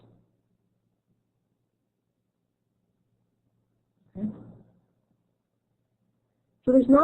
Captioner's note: silence